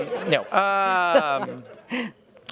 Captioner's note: laughter